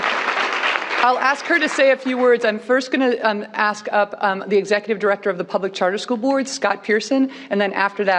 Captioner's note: cheers and applause